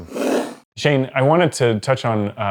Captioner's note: whooshing